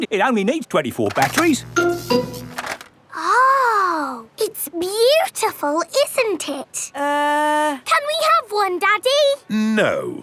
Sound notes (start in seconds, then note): 1.1 buzzing